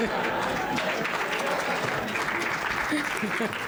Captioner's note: laughter; applause